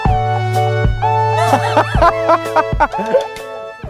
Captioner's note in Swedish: skrattar